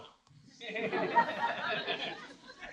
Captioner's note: laughter